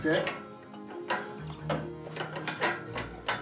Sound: weights clunk

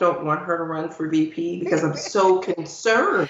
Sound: laughing

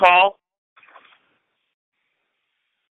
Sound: silence

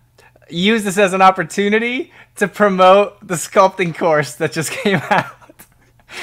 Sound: laughing

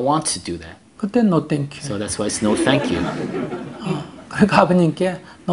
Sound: audience Laughter

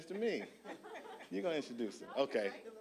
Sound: audience laughing

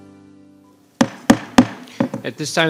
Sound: gavel banging

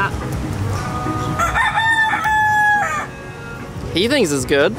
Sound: cock crows

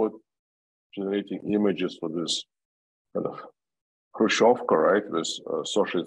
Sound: russian

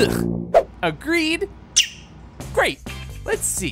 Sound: chirping

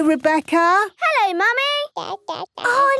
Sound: babbling

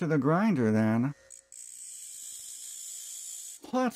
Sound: grinder sounds

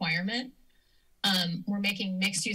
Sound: inhales

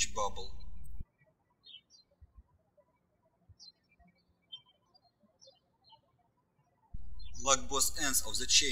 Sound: birds chirping

